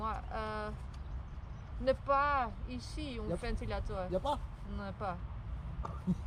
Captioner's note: trying my best French